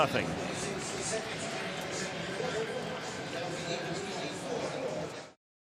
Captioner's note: pa announcement